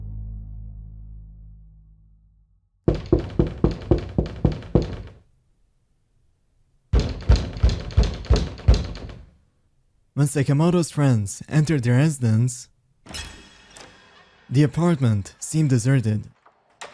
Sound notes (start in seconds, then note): 2.8 aggressive knocking; 6.9 agressive knocking continues; 13.1 forceful door handle twist